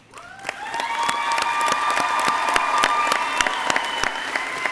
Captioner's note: crowd cheering